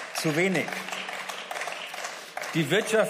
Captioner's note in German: Beifall